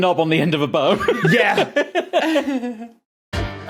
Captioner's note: laugh